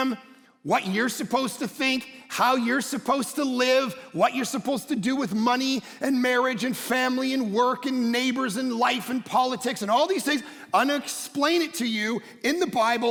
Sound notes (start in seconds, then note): none